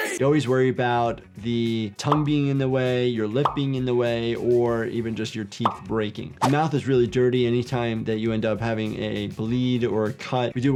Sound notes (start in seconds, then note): 6.4 screen whooshing